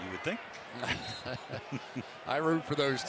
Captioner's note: chuckling